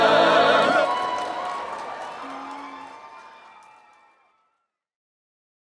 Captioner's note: applause